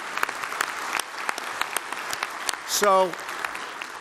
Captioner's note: applause